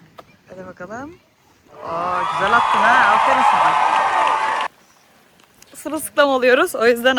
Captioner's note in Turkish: coşkulu tezahürat